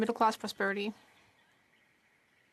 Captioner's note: speaking French